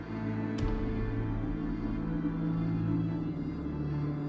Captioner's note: gunshot blasting; tense orchestral music continues